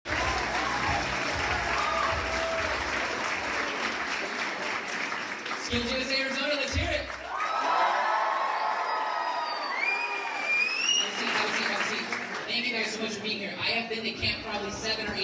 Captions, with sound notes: (crowd cheering) SkillsUSA Arizona, let's hear it! (crowd cheering) Thank you guys so much for being here. I have been to camp probably seven or eight